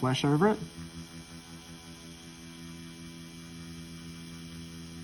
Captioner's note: machine whirring